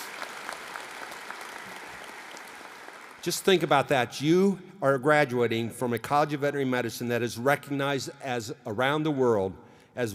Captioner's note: applause